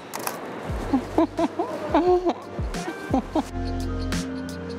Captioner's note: laughs